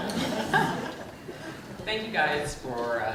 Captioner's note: group laughing